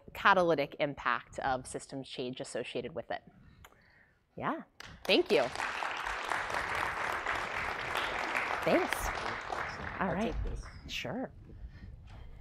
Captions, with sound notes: catalytic impact of systems change associated with it. Thank you. [APPLAUSE]